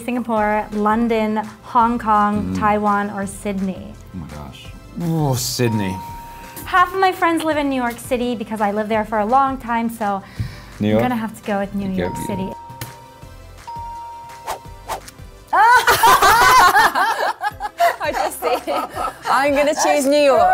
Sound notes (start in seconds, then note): 15.5 laughing